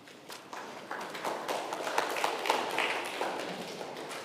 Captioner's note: congregation applauds